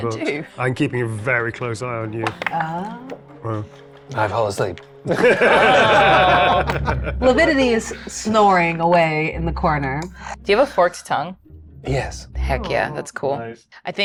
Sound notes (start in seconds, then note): 5.0 group laughs